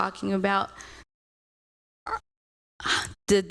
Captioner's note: audio out